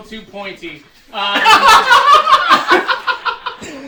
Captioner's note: laughter